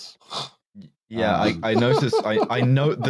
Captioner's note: snorts, then laughs softly